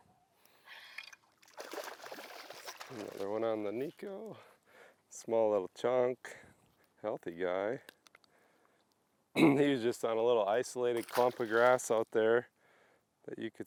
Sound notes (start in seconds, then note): 1.0 water splashes